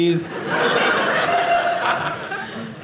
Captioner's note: audience laughing